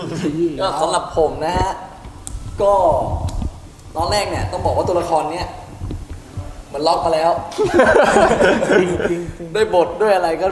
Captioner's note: laugh